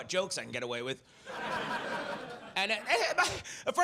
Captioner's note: audience laughs